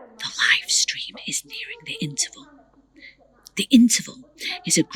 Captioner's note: in a whisper